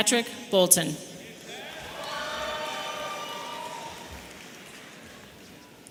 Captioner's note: audience cheering